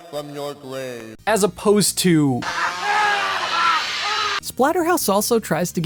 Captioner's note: maniacal laughter